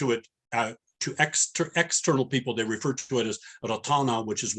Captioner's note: non-english